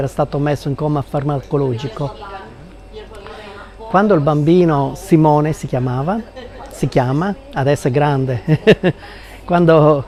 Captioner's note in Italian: risate